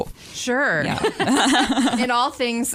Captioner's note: laughter